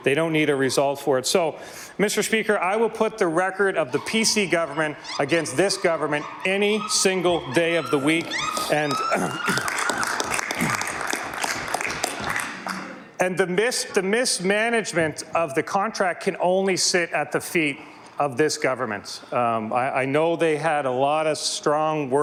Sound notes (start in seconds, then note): 13.5 some Applause